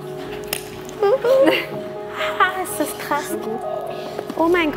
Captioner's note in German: ängstlich